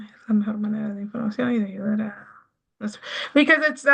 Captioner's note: speaking in Spanish